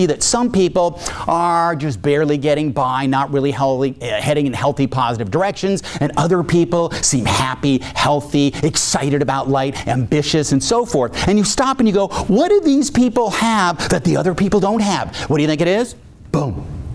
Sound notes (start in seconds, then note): none